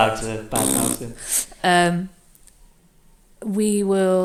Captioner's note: blows raspberry